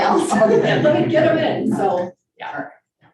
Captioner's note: group laughing